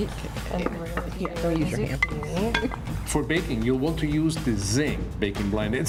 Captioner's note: kitchen noise